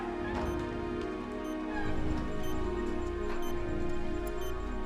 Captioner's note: machine beeping